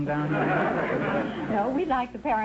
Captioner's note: audience laughter